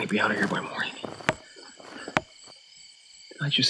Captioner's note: wood tapping